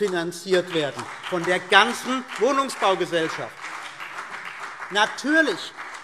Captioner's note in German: Beifall CDU und BÜNDNIS 90/DIE GRÜNEN